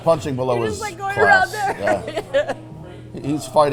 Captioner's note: laughs